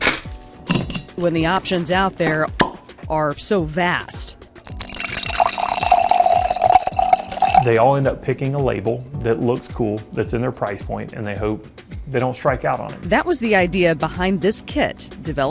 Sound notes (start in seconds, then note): 4.7 wine tinkles